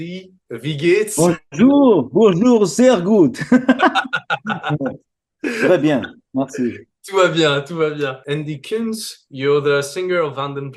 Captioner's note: German language; laughter; French speaking; German speaking